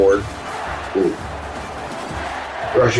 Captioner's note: crowd Noises